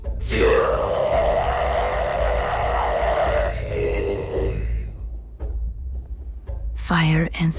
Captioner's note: screaming